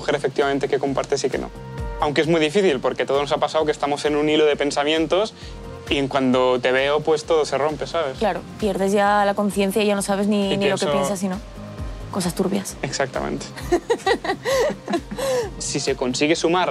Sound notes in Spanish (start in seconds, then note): 13.6 Risas